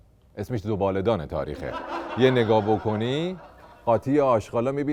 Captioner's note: laughter